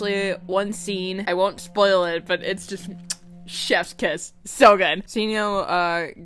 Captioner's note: mwah